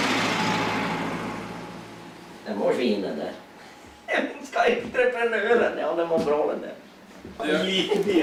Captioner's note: chuckles